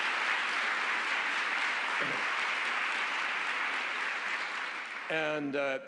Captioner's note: applause